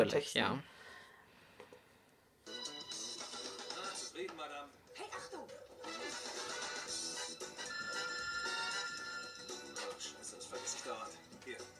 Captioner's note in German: ironie; fetzige musik; musik, telefon klingelt